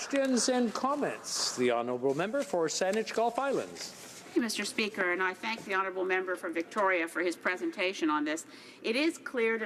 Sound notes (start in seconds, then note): 4.0 some Applause